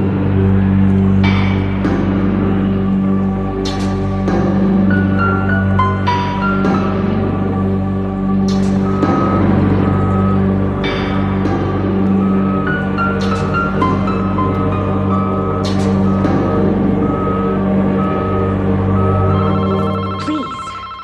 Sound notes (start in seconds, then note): 0.2 suspenseful music; 19.7 phone ringing